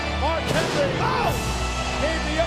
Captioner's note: solemn funereal music; thunder cracks